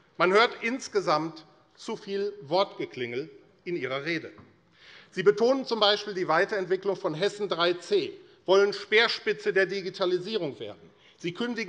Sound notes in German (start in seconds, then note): none